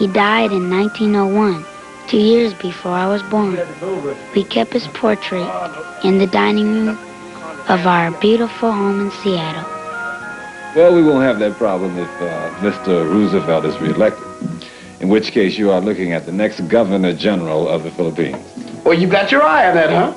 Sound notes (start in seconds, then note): 7.4 chatter